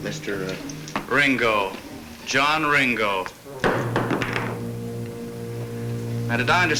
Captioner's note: glass thuds